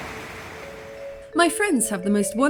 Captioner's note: rain